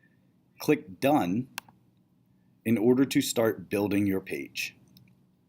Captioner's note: clicks done